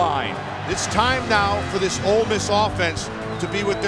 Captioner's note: voiceover